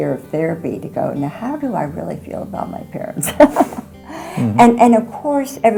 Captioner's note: laughing